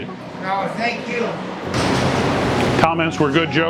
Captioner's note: banging